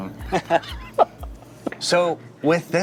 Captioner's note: both laughing